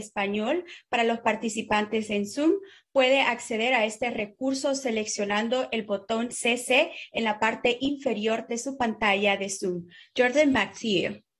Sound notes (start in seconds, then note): 7.4 speaking in spanish